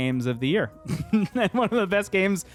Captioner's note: laughs